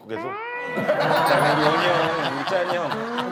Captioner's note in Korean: 딩동댕